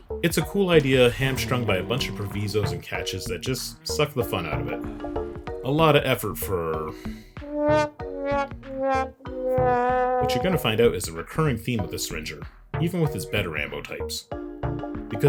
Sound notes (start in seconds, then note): 7.4 sad trombone noise